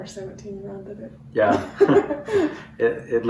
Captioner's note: laughter